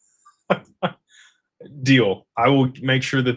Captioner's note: laughter